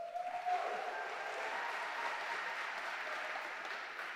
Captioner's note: audience applauding